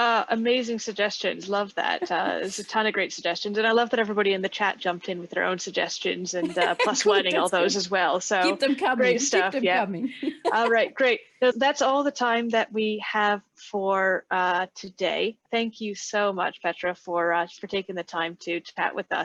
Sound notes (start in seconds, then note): 10.2 laughing